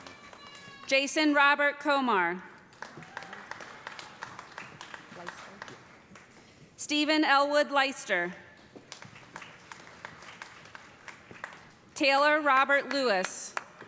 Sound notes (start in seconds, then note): 2.7 cheers and applause; 8.8 applause; 13.7 cheers and applause